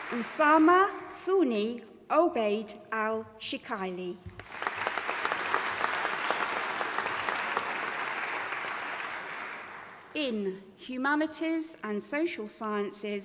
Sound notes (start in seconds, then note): 4.4 audience applauding